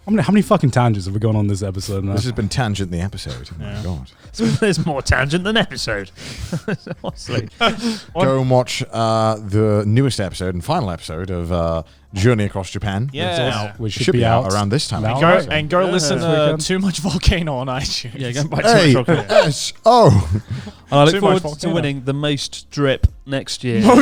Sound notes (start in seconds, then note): 6.2 laughing quickly